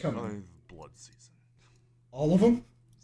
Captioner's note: quietly